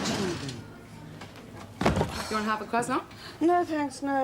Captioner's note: sighs